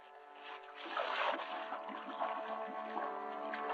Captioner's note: water bubbling